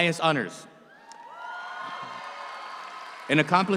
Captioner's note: audience cheers